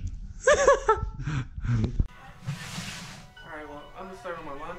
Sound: loud laughing

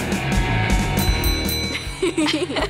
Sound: bell Sounding

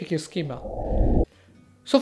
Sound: swishing

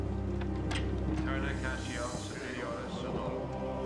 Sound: chanting

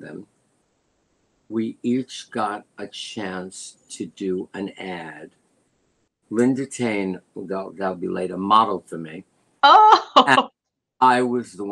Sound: laughter

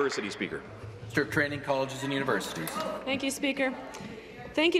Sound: some Applause

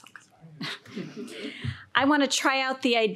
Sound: audience chuckles

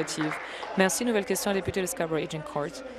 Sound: applause

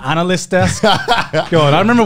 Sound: laughing

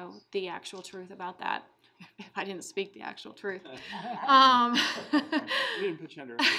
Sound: laughing

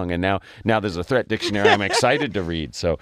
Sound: laugh

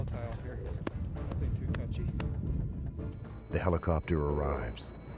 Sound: voiceover

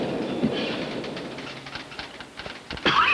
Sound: typing; coughs

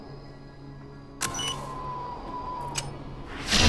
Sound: time drogue bleeps; implosion sound

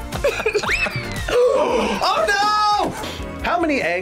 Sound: both laugh; both gasp

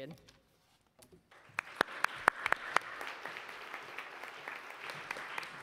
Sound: audience applauds

